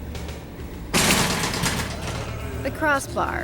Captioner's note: door slamming